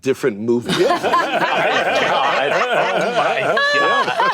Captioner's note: laughter